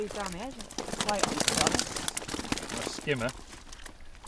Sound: fish flapping

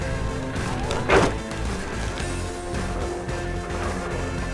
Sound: charcoal thuds

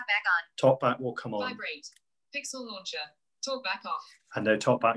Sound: voiceover

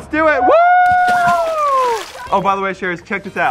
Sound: cheering

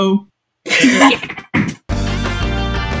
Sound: laughing

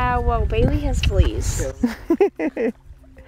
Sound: laughter

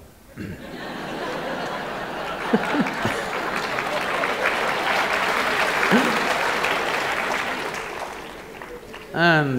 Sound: laughter/Applause

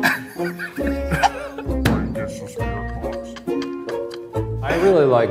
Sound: laughing

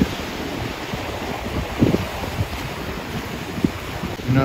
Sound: waves rushing

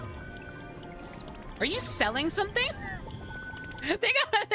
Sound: laughter

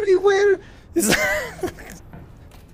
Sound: laughter

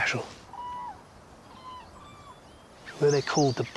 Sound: bird calls in the distance

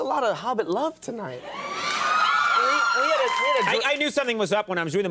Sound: audience cheering

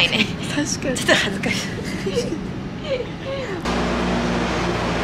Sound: laughs

